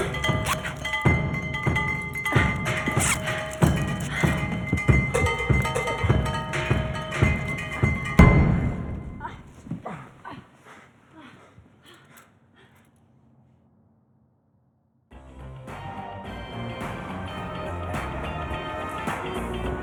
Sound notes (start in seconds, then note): 9.2 grunting; 15.5 upbeat music